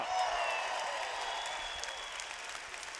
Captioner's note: cheers